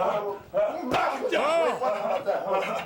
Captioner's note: wrestlers vocalizing; fist pounds